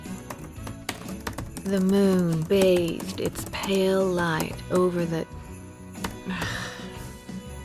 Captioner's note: typing resumes; typing